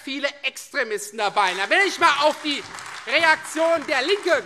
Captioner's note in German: Beifall Freie Demokraten und vereinzelt AfD